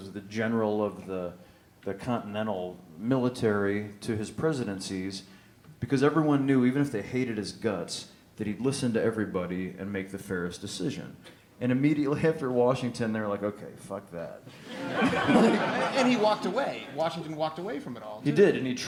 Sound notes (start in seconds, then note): 14.5 laughter